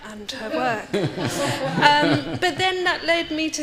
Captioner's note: audience laughing